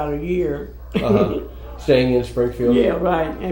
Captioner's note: laughs